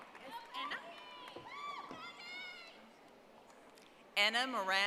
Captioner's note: audience applauding